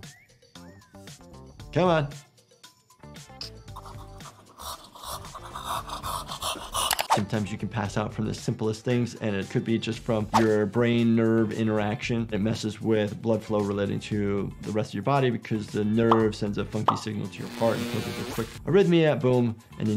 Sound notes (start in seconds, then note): 3.7 IShowSpeed panting; 17.4 electricity buzzing